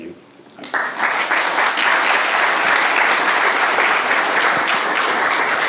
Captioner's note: audience applauding